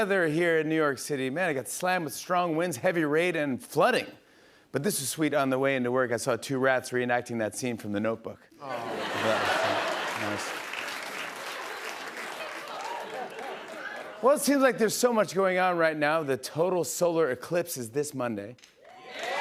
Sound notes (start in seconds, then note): 10.2 laughter and applause; 18.9 cheers and applause